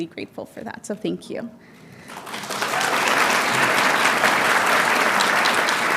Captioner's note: audience applauding